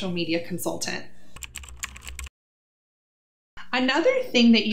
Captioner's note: keyboard clicking